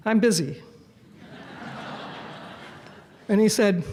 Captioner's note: audience Laughs